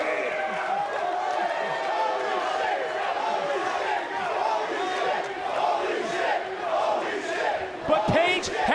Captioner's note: crowd chants